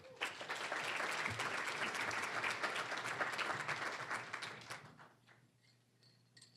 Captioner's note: applause